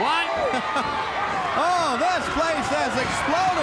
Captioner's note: crowd cheering